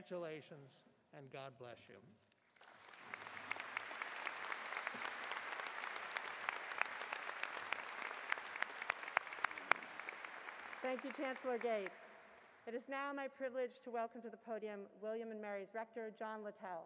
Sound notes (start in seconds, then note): 2.4 applause